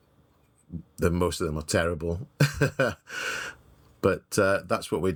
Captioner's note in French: rires